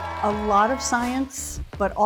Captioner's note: group cheering